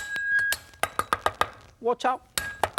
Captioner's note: knife chopping